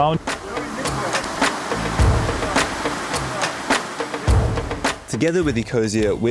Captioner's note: water gushing; upbeat music continues